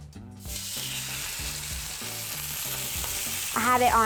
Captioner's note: sizzling